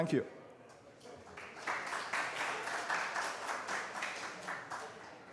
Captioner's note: applause